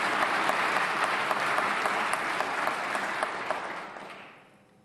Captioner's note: applause